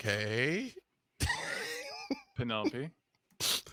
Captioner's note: laughs